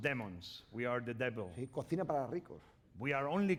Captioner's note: speaking spanish